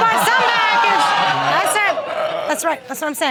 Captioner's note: audience exclaiming